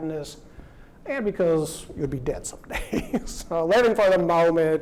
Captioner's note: laughs